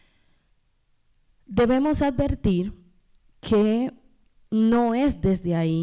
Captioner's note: speaking spanish